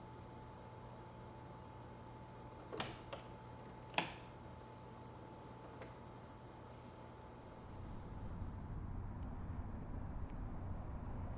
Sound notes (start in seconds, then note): 3.8 door latch clicks